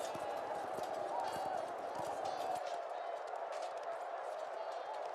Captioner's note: indistinct crowd noise